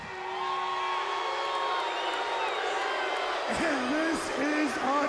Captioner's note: audience booing